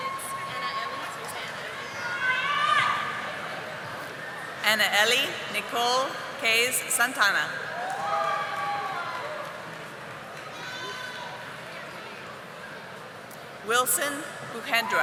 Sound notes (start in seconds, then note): none